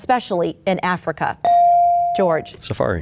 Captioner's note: bell dings